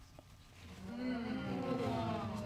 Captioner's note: audience exclaiming